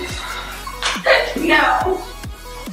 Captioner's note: laughs